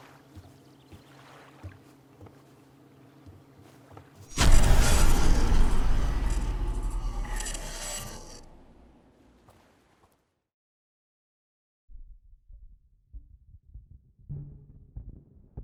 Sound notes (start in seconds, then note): 4.3 zapping